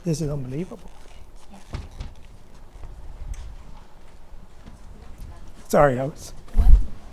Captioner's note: crowd murmurs